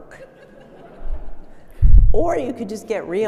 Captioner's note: audience laughing